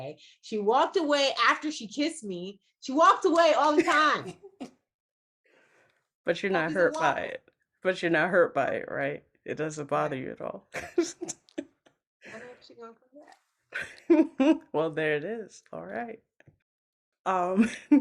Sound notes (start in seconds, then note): 10.7 laughs